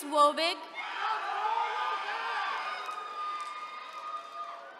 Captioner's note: attendees cheering